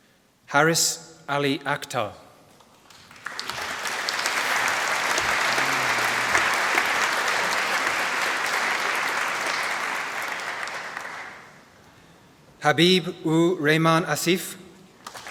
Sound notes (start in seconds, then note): 2.8 applause; 15.0 applause